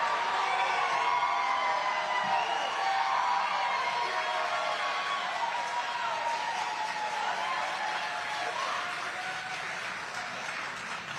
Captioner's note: applause